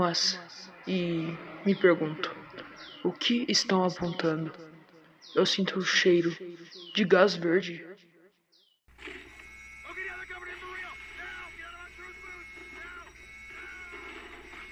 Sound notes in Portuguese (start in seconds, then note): 9.0 Som de Sirene; 9.5 Gritos